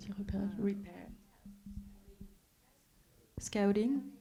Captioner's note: speaking French